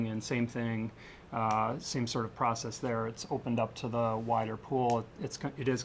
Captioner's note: none